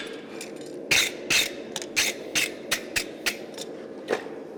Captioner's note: metal scraping against the brush